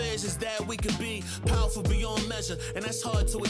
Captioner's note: cell phone ringing